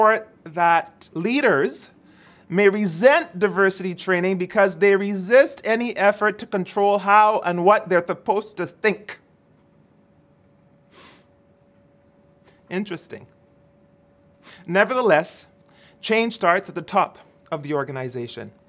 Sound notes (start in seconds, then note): none